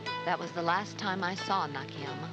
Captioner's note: Maggie Voiceover